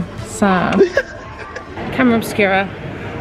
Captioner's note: laughing